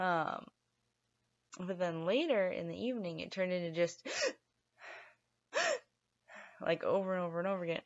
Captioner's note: gasp!